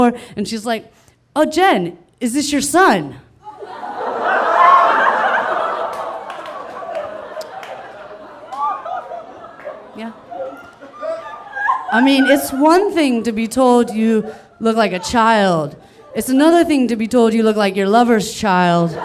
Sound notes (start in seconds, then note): 3.8 audience laughing